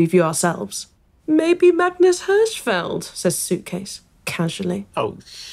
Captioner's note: mocking tone